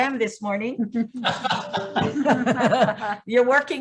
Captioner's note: laughing